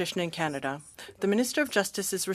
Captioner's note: speaking french